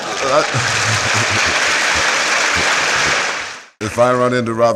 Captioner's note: laughter and applause